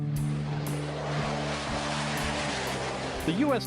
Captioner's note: roaring plane engine